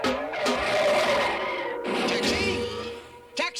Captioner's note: tires screeching and crash